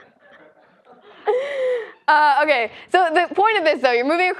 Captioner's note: laugh